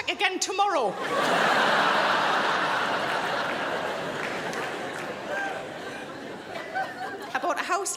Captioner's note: crowd laughs